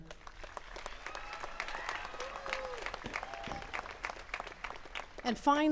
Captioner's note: attendees cheering and clapping